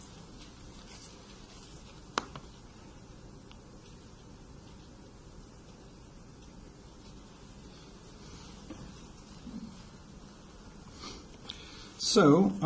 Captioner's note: pause